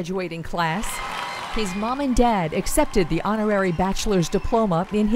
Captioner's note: applause